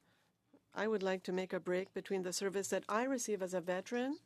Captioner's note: speaking French